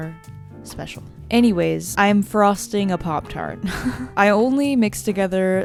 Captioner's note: laughs